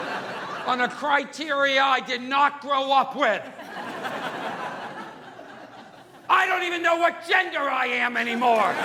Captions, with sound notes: on a criteria I did not grow up with. (audience laughing) I don't even know what gender I am anymore!